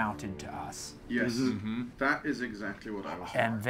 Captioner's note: group agreeing